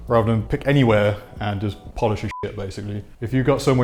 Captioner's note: beep